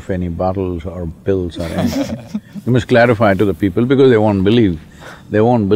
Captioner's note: laugh